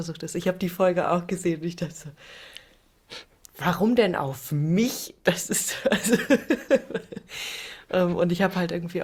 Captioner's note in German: gelächter